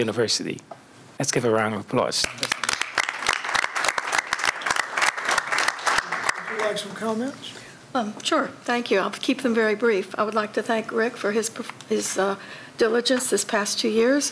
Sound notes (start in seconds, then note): 5.2 applause